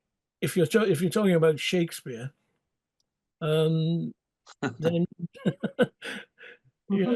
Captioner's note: both laughing